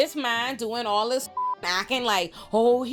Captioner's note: beep